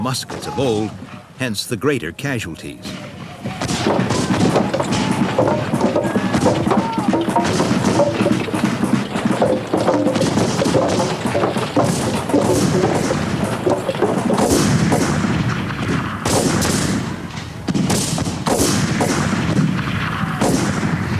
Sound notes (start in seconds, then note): 4.2 guns bang; 4.2 wood thuds